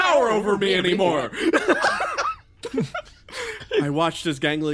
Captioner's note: laughs